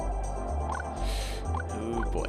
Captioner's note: inhaling